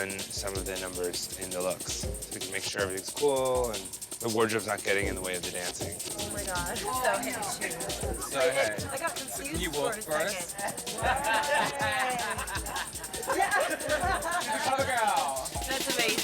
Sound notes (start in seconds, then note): 11.1 laughter